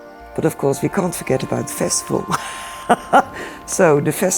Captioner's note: laughs